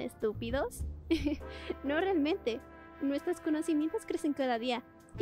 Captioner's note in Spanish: risita